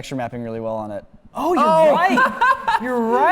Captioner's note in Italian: risate